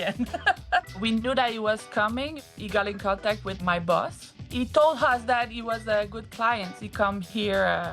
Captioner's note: laughter